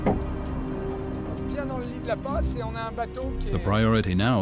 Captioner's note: speaking French